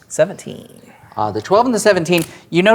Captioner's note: pen clicks